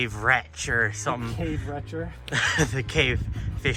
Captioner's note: laughs